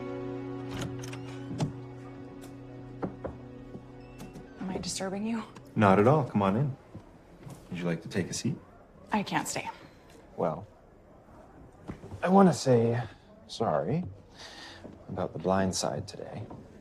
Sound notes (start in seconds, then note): 0.6 door opens; 3.0 knocking